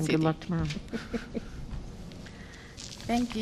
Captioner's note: laughter